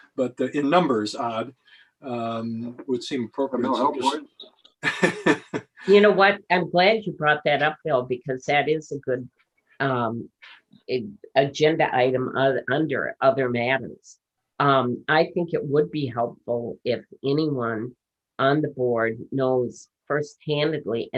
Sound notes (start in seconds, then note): 4.8 laughs